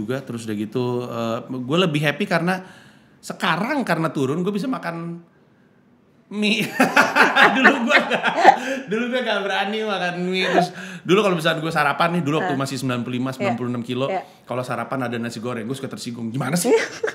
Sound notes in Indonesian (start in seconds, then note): 6.6 tertawa